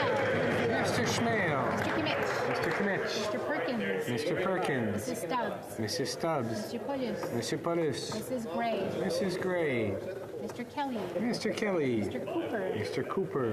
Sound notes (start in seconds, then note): 4.7 applause